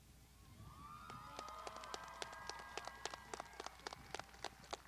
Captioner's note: crowd applauding